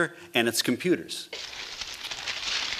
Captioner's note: crinkling noises